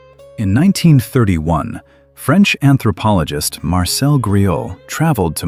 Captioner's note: breath